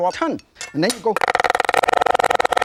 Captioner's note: taps knife on bench; knife cutting shallots machine-gun style